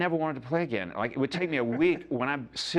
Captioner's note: laughs